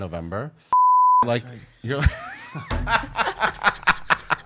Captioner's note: laughs